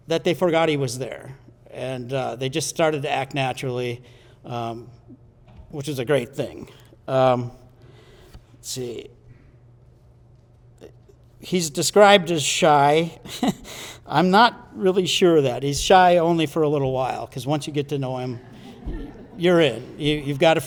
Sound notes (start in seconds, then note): 13.2 chuckles